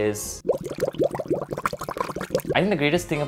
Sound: water bubbles

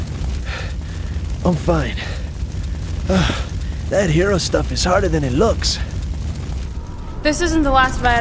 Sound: sigh

